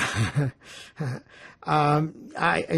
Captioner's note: laughing